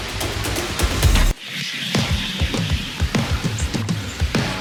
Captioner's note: arrow flies